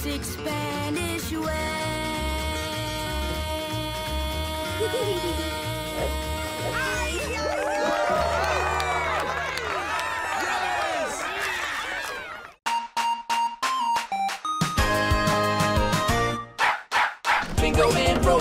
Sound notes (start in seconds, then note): 4.6 giggles; 6.7 cheering